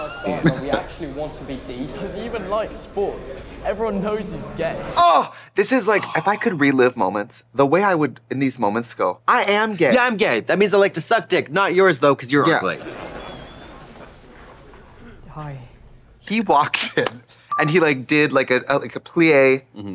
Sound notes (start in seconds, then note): 4.8 Trixie hooting; 12.8 door squeaking